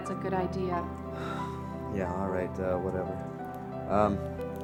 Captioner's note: sighs